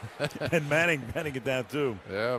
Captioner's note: laughs